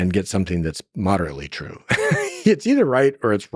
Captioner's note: laughs